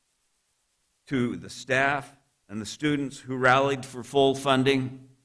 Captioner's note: none